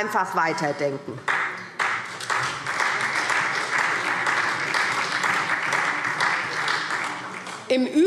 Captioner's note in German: Beifall SPD